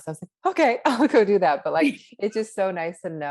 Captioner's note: laughs